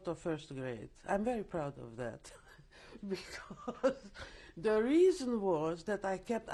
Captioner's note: laughs